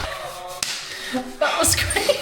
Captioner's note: slaps